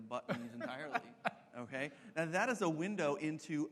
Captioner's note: laughs